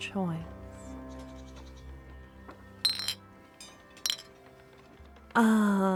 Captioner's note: bottle noises, long pause